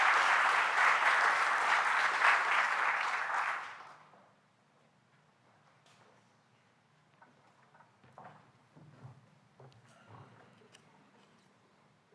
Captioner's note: applause